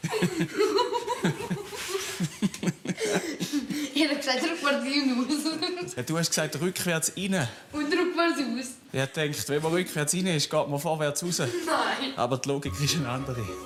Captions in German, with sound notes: (Lachend) Ich sagte doch rückwärts rein und raus. Du sagtest, rückwärts rein. - Und rückwärts raus. Ich dachte, wenn man rückwärts reinfuhr, fährt man vorwärts raus.